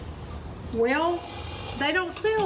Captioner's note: sauce sizzling